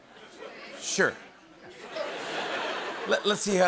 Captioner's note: laughter